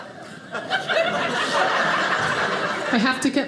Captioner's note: audience laughing